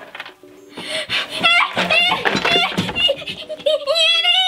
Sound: whining

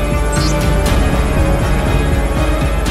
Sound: alphabet displayed sound

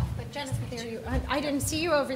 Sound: speaking faintly

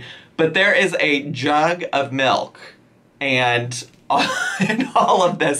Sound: laughs

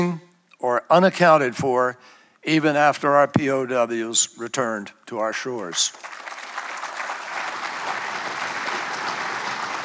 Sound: applause

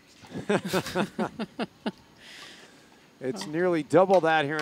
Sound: announcers laugh

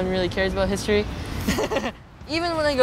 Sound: laughs

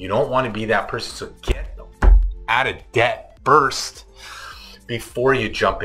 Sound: pounds table

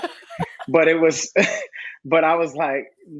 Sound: laughing

